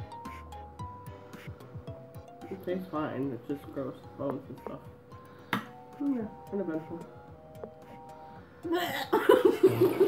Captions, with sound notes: It tastes fine. It's just gross with bones and stuff yeah. Uneventful *Gagging sound*